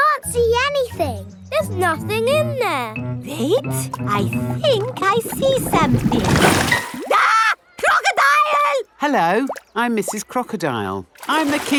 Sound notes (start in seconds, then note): 7.1 screams